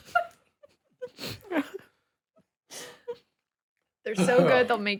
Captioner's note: laughing